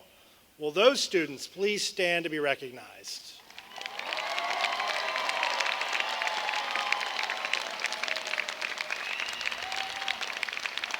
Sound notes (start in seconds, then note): 7.1 cheers and applause